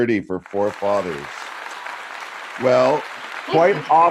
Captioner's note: applause